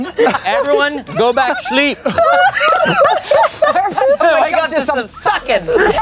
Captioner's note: everyone laughs